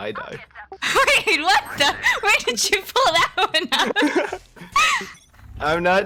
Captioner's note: laughing